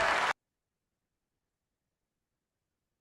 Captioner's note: cheers and applause